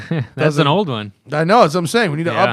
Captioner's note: laughter